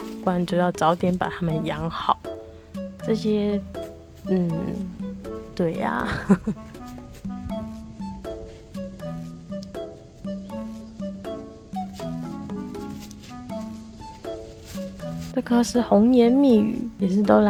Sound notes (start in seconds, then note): 6.5 laughing